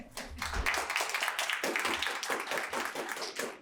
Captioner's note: people clapping